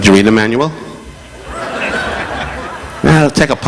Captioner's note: audience laughing